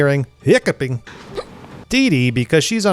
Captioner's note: hiccups